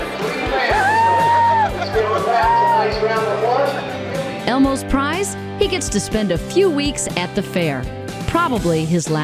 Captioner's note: yelling and screaming